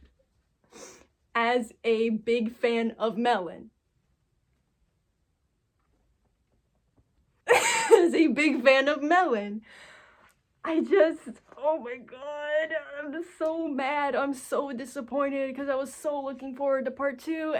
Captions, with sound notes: As a big fan of Melon, *WHEEZE* As a big fan of Melon, I just- ohmygodddd ughhhhh I'm just so mad. I'm so disappointed cuz I was so looking forward to part 2